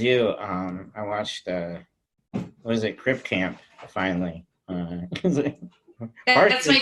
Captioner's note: chuckles